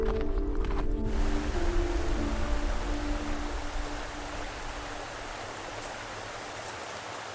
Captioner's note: sound of water running in the river